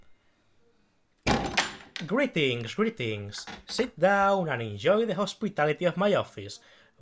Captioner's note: door opens